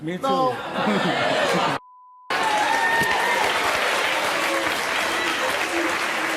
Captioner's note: audience yelling, applauding